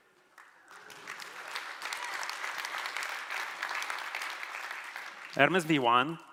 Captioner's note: applause